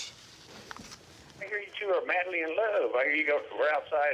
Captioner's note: on phone